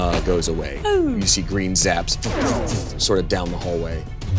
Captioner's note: imitates wisps firing